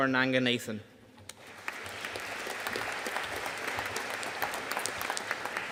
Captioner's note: audience applauding